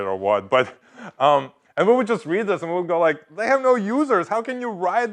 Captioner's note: laugh